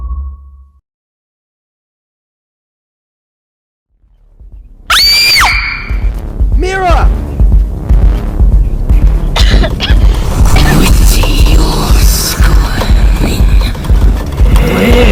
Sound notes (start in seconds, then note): 4.9 screaming; 9.3 coughing